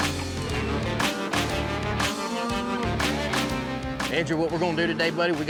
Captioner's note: mooing